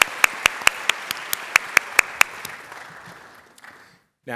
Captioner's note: applause